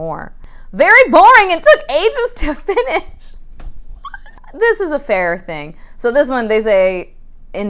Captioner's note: shouting incredulously; laughing